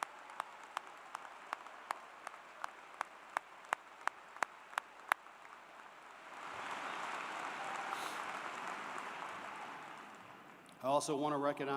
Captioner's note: applause